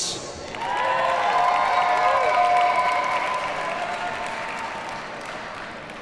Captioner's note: audience cheers and applauds